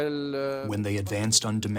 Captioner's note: through translator